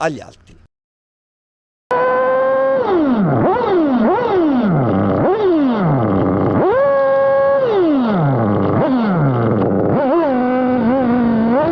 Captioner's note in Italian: engine sound